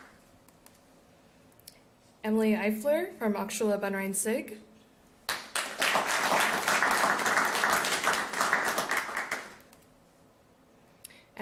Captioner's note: applause